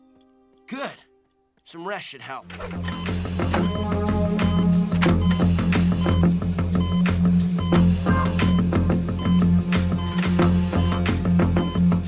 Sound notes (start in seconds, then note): 2.5 beeping, music playing